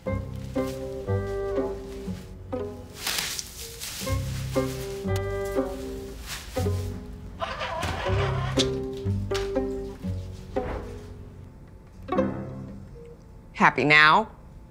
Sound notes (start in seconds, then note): 0.2 light music; 2.8 PPE crunching; 7.4 antibacterial dispenser whirring